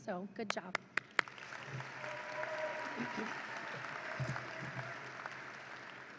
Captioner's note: audience applauds and cheers